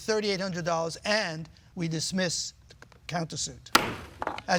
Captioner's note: gavel bangs